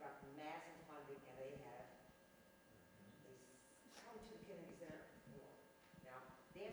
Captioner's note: speaks faintly